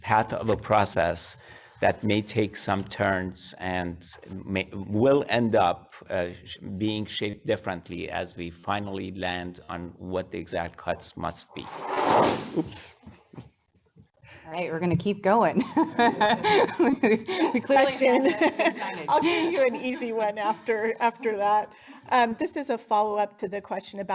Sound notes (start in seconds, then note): 15.6 laughing